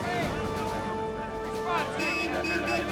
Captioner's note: car horn honking